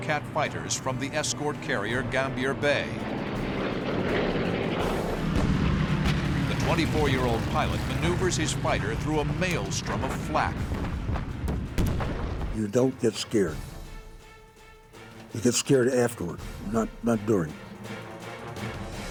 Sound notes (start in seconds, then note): 10.7 explosions